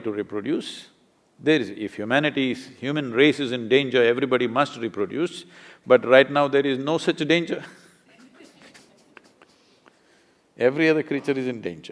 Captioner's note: laughter